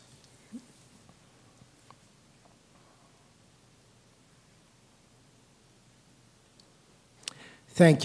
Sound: moment of silence

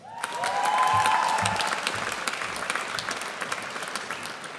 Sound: audience applauds

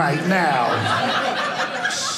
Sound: audience laughing

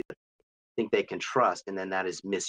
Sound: choppy audio

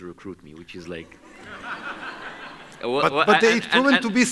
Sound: audience laughs

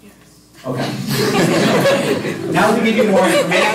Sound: laughter

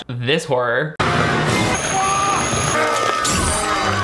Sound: Brinkman yelling

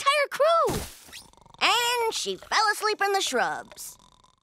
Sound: snoring

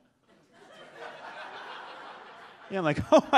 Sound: audience laughs

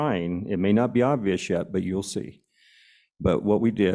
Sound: none

